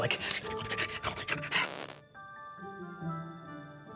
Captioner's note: panting; gentle music